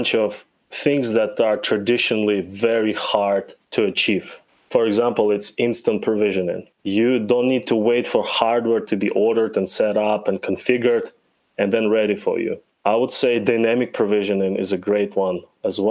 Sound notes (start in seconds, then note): none